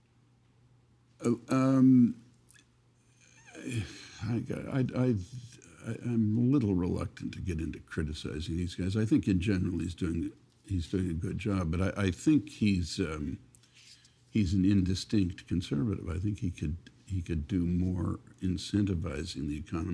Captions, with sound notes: Um... (Sighing) I-I-- I'm a little reluctant to get into criticizing these guys. I think, in general, he's doing a good job, but I think he's, um... he's an indistinct conservative. I think he could-- he could do more incentivizing the economy.